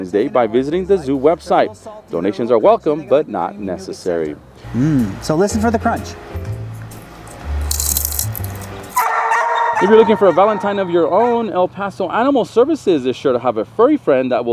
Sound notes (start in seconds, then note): 6.3 light jazz music; 7.6 loud crunching